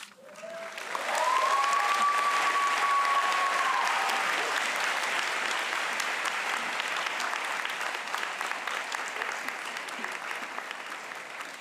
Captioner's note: applause